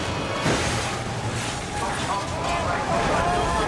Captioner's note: car crashes